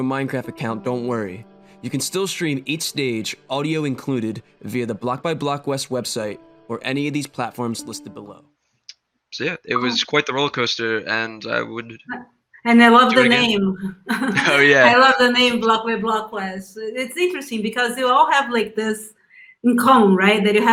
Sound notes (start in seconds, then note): 14.0 laughs